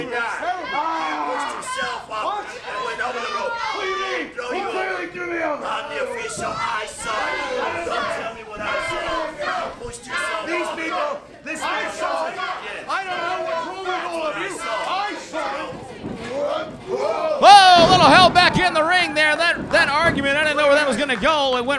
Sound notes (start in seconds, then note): 11.9 background chattering; 11.9 crowd chanting